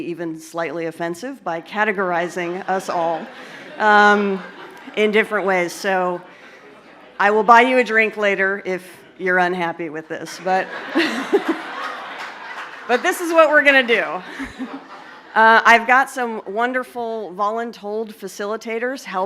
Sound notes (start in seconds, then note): 10.2 laughter